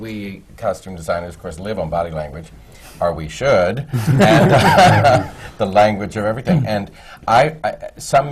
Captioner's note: laughter